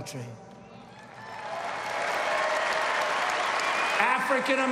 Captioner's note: applause